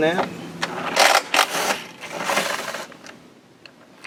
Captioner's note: drill rattles